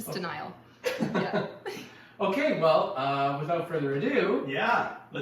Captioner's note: laughs